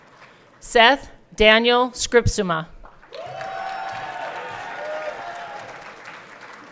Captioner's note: everyone cheering